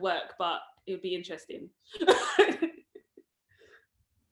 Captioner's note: laughs